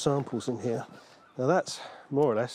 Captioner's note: seagulls squawking